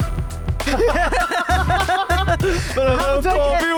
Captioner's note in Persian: خنده